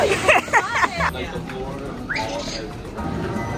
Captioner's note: laughing